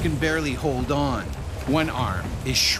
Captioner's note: voiceover